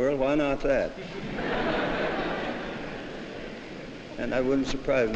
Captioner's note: laughter